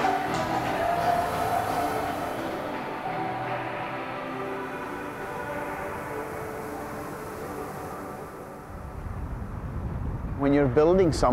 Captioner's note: waves softly crashing